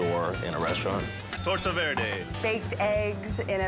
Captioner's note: bell rings